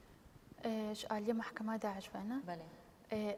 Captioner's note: speaking kurdish